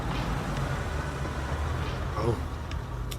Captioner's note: engine rumbling